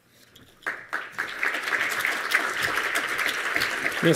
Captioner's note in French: Applaudissements